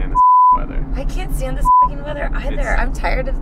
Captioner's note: beep